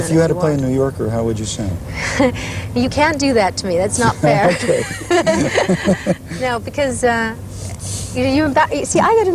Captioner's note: laughter